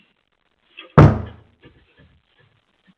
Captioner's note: loud thud